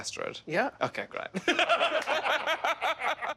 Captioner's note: laughing